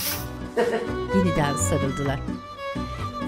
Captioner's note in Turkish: Gülme sesi